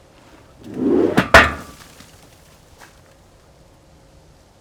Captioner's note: objects clanking